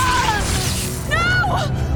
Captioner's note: pained screams filled with visceral pain; faints from the pain